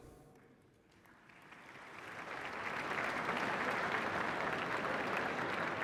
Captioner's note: applause